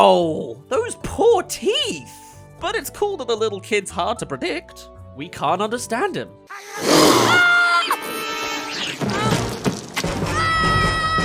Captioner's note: ahh! Ahhh! *Crash